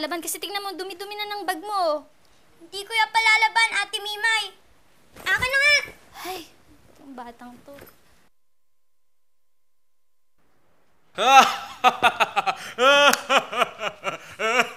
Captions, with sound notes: Look at how filthy your bag has become. I won't wash it, Miss Mimay. Give it to me! [sighs] Oh, this kid... [laughing]